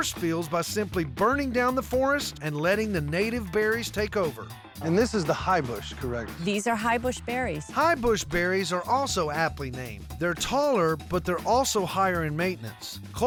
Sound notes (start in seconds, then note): none